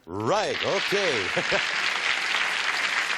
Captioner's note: chuckles; applause